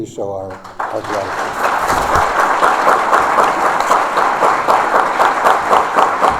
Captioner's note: applause